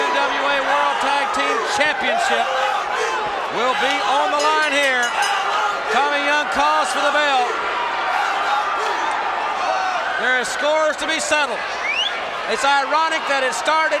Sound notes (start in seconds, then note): 0.0 crowd shout; 3.8 bell rings; 7.6 crowd shout